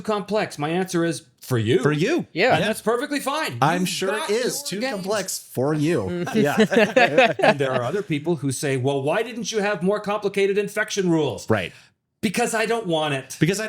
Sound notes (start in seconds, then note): 6.2 both laughing